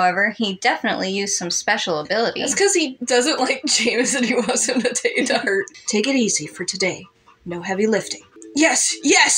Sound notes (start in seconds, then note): 5.3 giggle